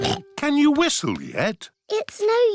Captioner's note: snorts